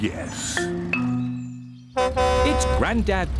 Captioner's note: horn honks